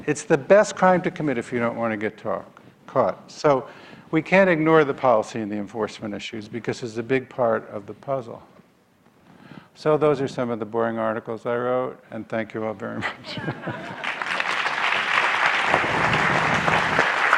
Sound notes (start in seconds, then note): 13.0 laughs; 13.7 audience applause